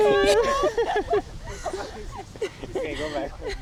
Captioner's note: laughter